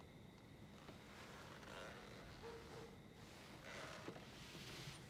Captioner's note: distant dog barking